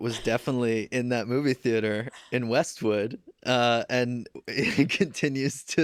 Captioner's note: laughs